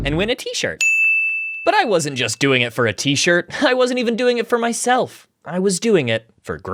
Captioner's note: vine boom x2; ding